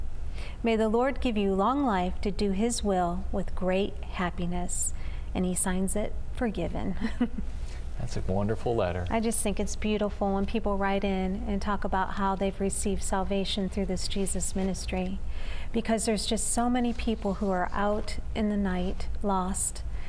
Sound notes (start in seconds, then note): 6.9 giggle